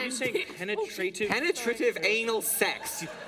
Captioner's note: laughter